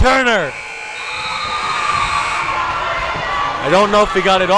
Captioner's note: timer buzzes